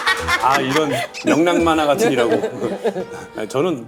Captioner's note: very cheerful emcee